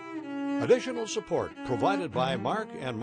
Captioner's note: voiceover